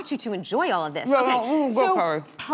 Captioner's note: mumbling with mouth full